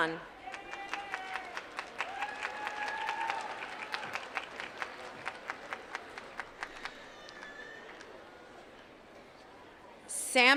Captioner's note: applause